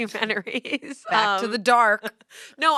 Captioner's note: laughs